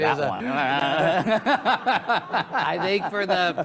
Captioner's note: audience laughs